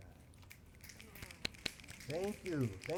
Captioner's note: applause